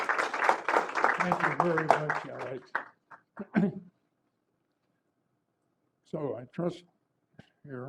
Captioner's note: applause